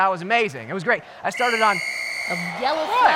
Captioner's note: whistle